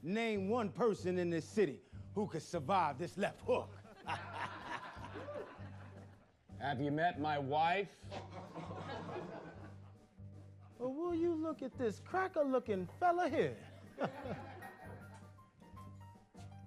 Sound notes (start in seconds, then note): 3.4 laughs; 8.0 laughter